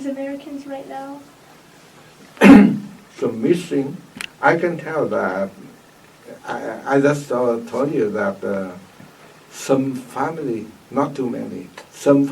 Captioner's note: coughs